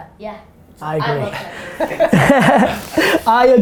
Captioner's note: group laughter